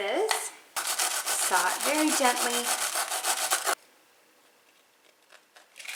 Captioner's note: knife sawing